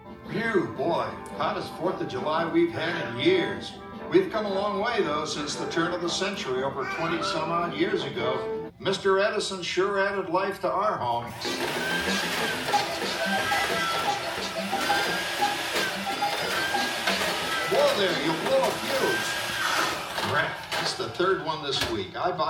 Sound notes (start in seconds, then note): 11.2 vacuum cleaner whirs; 11.3 hectic music